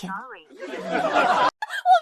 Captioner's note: laughs